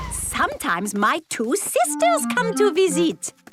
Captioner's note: none